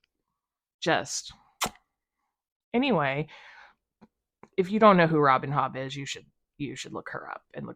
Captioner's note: kiss noise